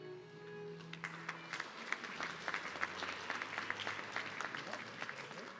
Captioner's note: audience clapping